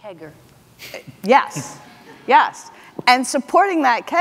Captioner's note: audience laughs